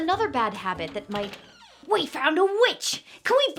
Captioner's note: door squeaks